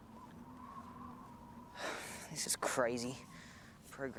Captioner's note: sigh